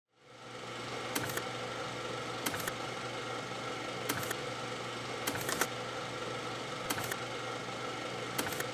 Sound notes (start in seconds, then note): 0.9 microfilm projector whirring; 1.8 camera shutter clicking